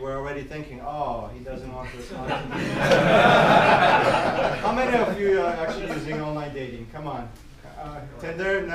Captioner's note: loud laughing